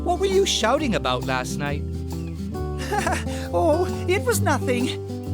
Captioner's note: embarrassed chuckle